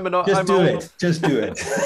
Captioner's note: laughter